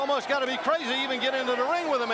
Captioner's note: crowd chatter